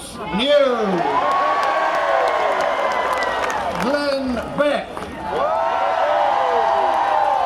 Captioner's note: cheering